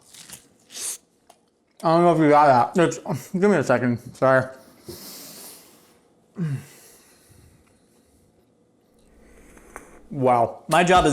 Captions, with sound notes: (crunching loudly) I dunno if you got that. It's, give me a second, I'm sorry. (slurping) Wow!